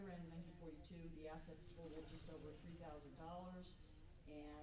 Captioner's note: stammers